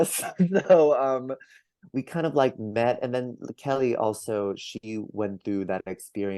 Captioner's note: laughs